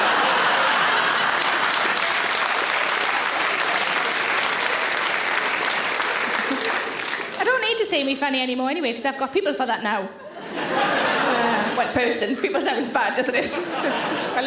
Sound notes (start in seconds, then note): 2.1 audience claps; 2.1 audience laughs